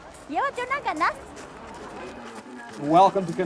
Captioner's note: speaking foreign language